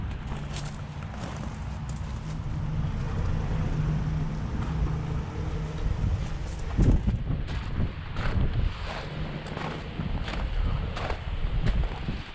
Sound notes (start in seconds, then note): 8.1 gravel crunching under foot